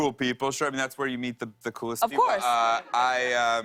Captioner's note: laughter